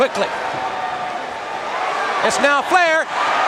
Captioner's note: crowd cheering